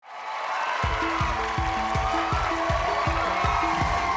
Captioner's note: cheers and applause